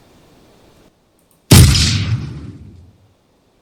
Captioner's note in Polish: Wystrzał